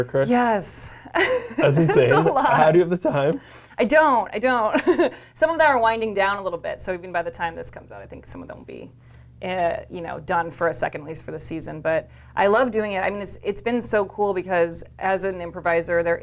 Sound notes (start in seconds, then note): 1.1 laughs; 5.5 laughs